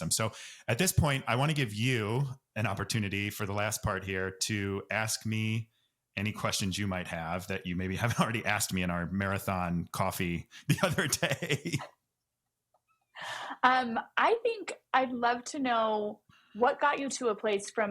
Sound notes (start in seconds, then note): 10.6 both laugh